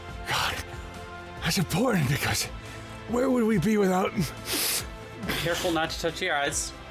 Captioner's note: coughs